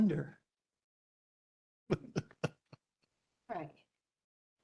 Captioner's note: laugh